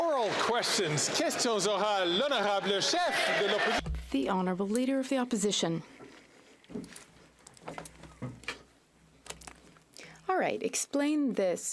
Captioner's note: some Applause